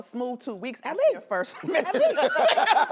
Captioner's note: laughter